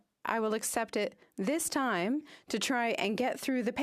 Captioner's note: speaking French